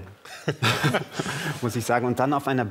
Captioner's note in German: Lachen